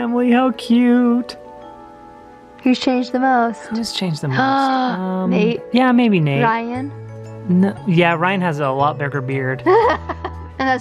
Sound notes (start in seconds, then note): 4.8 gasps; 9.6 laughs